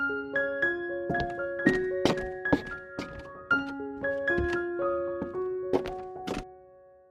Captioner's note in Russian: шаги